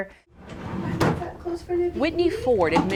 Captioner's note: drawer closing